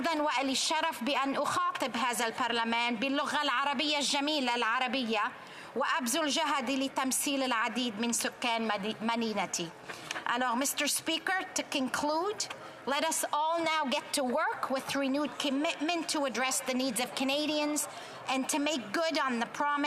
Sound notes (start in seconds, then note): 4.3 speaking alternate language